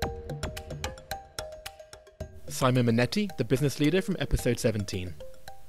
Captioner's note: voiceover